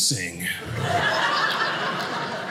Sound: audience laughing

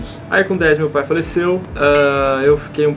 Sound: ding!

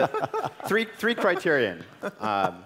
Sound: laugh

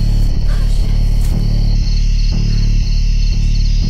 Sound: cicadas chittering loudly

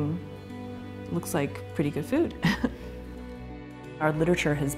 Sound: chuckles

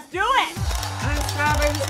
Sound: crowd cheering; camera shutters clicking

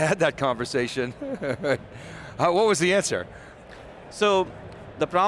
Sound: laughs

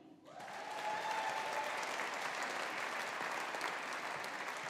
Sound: audience applauding

